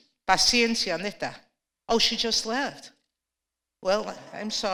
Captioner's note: spanish